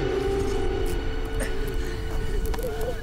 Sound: grunting

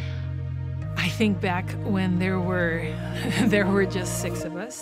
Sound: chuckles

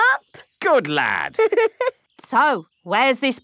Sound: giggling

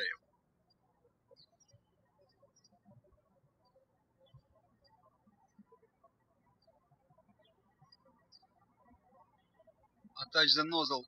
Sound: birds chirping

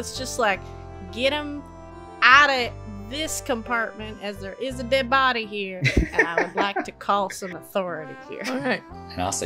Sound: laughter

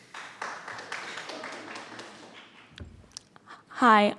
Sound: audience applauds

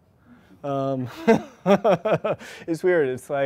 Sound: chuckles

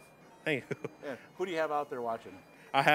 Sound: chuckling

